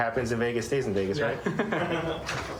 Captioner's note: laughter